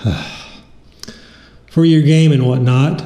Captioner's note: lip smack